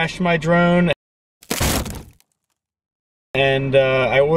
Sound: branches breaking

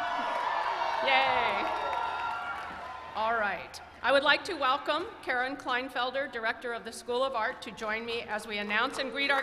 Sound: cheers and applause

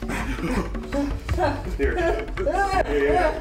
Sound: panting

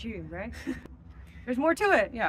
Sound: laughs

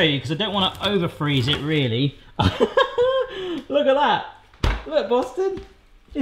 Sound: laughing

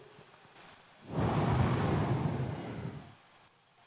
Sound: sound of wind blowing

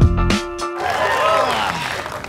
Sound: cheering; groan

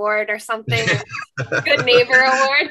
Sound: laughs

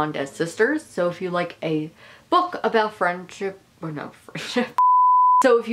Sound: beeping

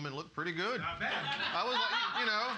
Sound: laughing

